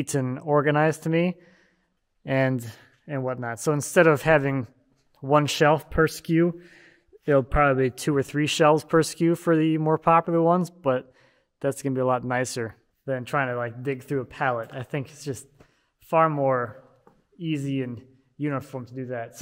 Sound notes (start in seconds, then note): none